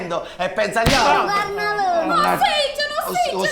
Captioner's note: big slap on the face, he moans in pain